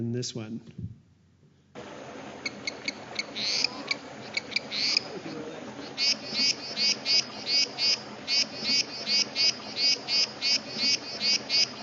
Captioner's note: sounds of frog calling